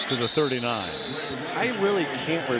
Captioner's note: whistle